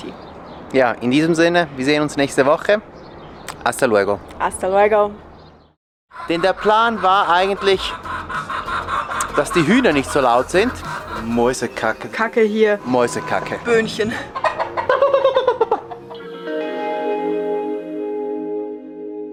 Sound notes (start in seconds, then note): 8.2 chicken cackling; 15.5 cackles